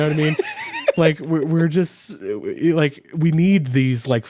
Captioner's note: laughing